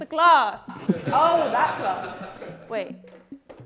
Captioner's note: laughter